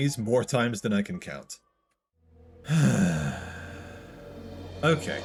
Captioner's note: sigh